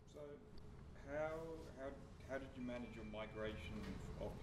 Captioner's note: voiceover